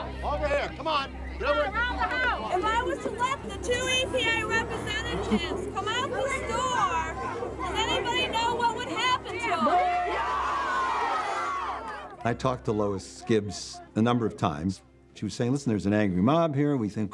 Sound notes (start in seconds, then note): 10.2 others shouting